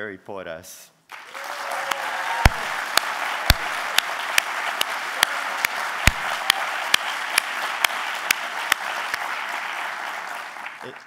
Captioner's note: applause